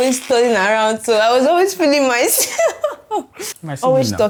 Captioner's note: laughs